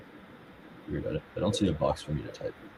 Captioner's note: faintly speaking